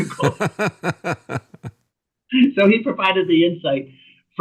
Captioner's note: laughter